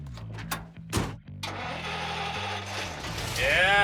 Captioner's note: rock music; engine starting